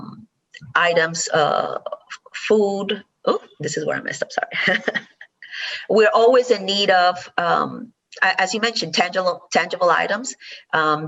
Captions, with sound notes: items, food, huh, this is where I messed it up. (laughs) We're always in need of as you mentioned, tangible items